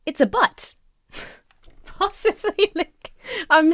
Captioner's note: laughs